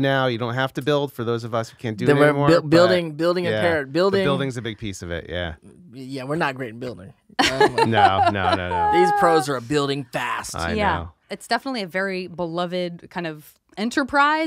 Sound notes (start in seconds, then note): 7.4 laughs